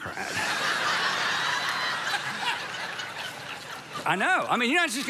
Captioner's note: congregation laughs